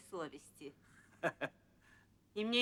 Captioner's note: laughter